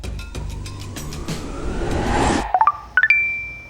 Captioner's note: whooshing; chime